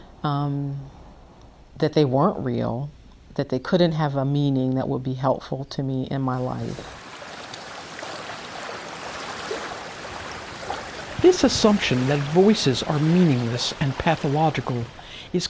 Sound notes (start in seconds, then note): 6.3 sound of ocean waves